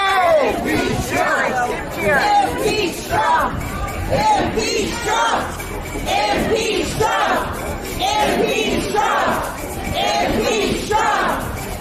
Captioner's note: chanting